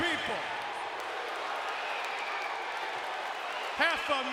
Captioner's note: audience cheering